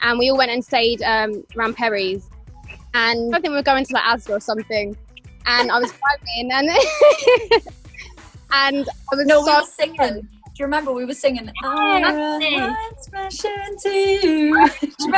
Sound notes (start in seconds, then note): 5.5 laughs; 5.5 she laughs